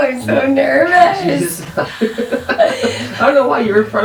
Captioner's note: laughter